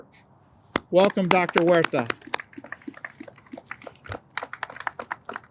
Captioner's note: audience applauds